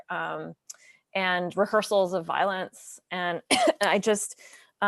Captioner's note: coughs